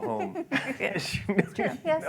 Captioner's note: laughter